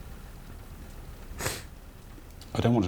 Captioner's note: sniffles